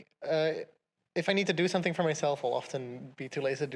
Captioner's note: none